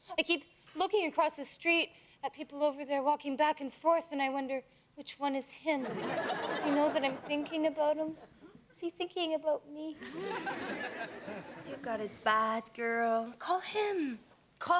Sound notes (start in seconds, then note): 5.8 audience laughs; 10.0 audience laughs